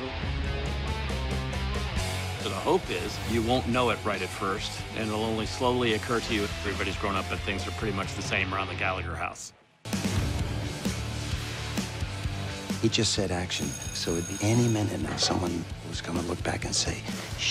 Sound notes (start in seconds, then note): 13.4 bell ringing